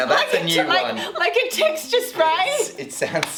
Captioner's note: laughing